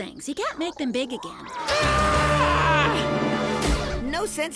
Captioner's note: screaming